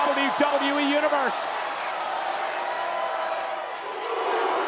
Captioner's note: crowd cheering